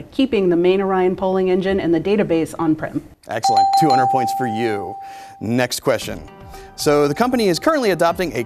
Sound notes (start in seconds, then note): 3.4 dings